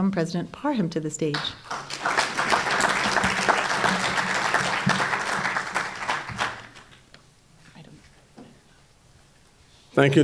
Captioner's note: applause